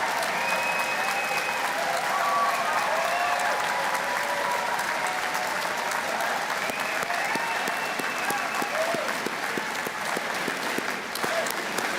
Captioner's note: cheers and Applause